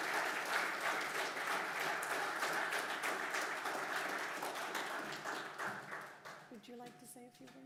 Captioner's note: applause